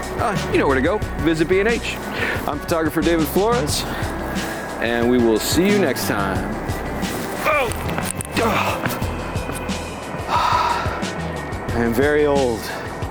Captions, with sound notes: You know where to go, visit B&H! I'm photographer David Flores, and we will see you next time! (shouts loudly) I am very old.